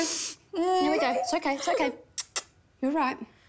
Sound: whimpers; kisses

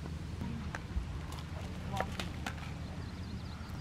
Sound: crunch

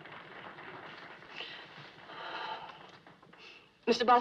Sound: applause; sighs

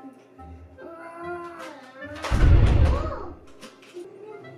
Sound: dinosaur roars

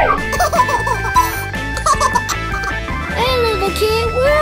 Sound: baby laughing

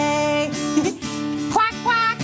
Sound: chuckles

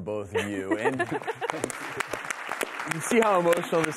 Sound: crowd applauses

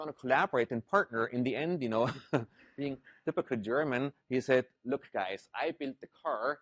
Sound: laugh

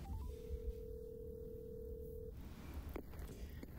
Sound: phone ringing

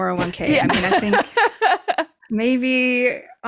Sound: laughs

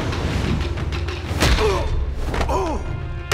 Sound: groaning

